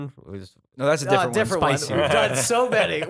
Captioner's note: laughter